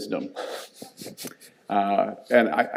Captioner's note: audience chuckles